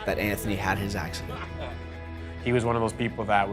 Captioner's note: both laughing